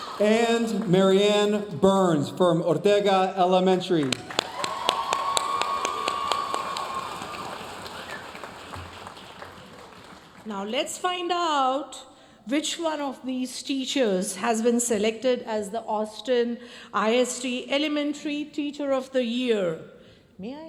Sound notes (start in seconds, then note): 4.0 audience cheering and applauding